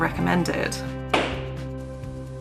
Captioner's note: gavel bang!